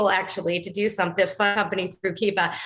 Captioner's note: audio distortion